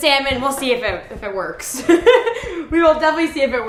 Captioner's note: laughs